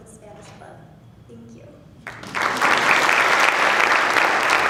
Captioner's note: applause